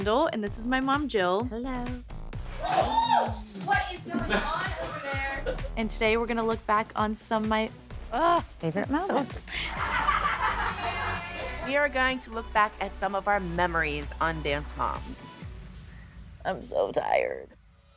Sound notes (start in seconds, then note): 2.6 whooping; 9.4 laughter